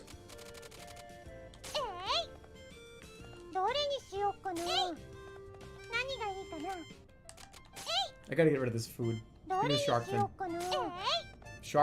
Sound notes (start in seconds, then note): none